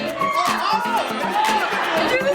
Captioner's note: cheering